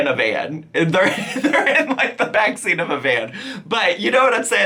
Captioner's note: laughing